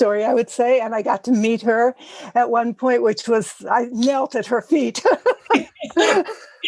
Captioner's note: laugh